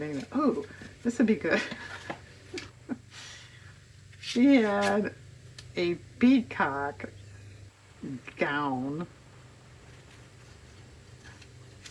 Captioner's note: laughs